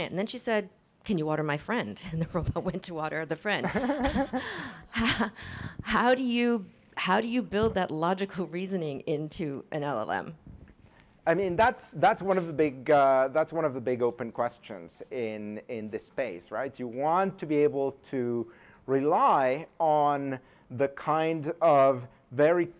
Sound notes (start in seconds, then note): 3.6 laughter